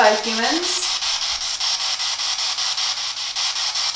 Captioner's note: static